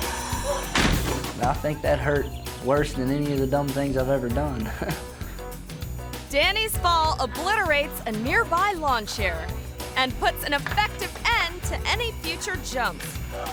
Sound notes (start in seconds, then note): 0.7 thuds; 4.3 chuckles; 13.3 groans